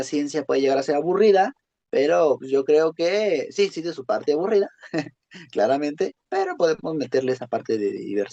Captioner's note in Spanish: risas